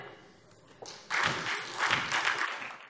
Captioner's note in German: Beifall SPD und vereinzelt DIE LINKE